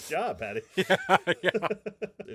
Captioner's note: laughing